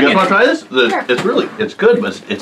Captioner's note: laughing